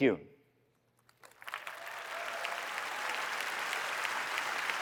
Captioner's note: applause